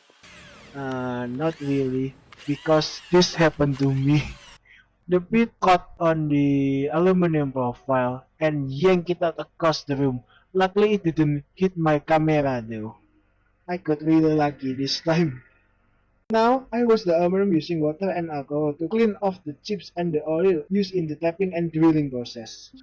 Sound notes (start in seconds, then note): 5.2 drill